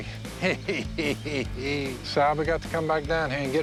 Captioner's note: Phil laughing